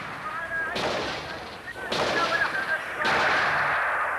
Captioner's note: gunshots